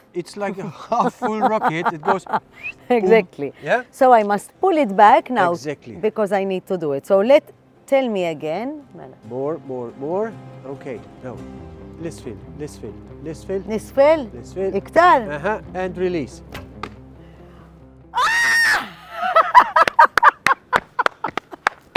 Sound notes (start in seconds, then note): 18.1 screams; 20.7 applause